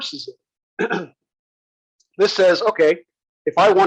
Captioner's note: cough